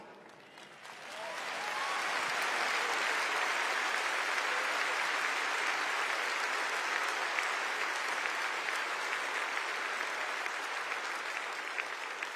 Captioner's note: applause